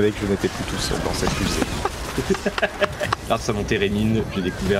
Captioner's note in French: rires